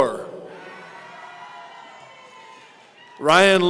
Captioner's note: audience cheering